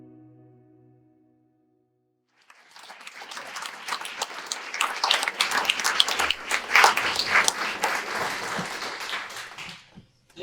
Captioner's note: audience applause